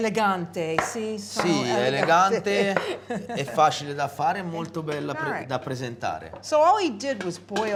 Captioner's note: speaking italian